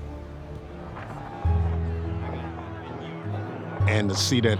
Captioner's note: crowd clamoring